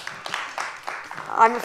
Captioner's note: applause